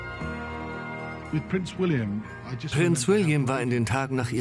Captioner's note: voiceover